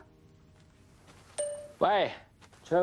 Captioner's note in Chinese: 訊息錄音提示聲